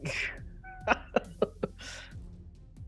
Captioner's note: Quincy chuckles